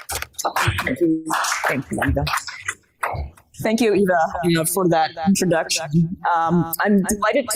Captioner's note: applause